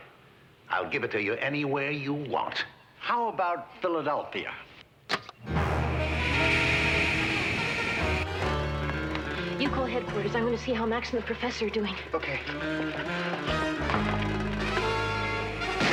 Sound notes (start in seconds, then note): 5.4 tense music; 5.5 swooshing; 12.3 tense music; 15.6 gun bangs